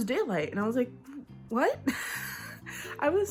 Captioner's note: laughs